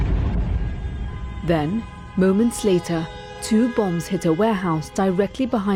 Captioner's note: explosion